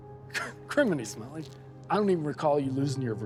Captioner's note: laughs